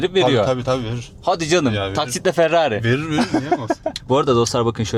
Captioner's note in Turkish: kahkaha